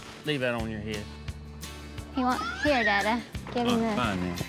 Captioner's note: babbles